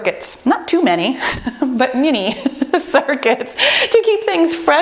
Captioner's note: laughs